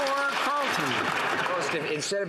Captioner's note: some Applause